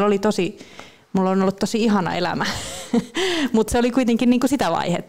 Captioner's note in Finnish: Naurahtaa